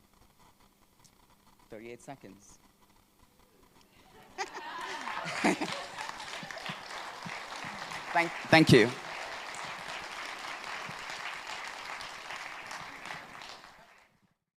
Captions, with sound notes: 38 seconds. [he laughs] [Applause] Thank you, thank you.